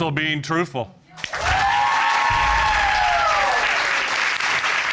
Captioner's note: audience cheering